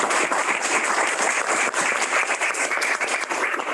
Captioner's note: applause